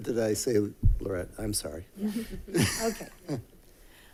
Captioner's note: chuckles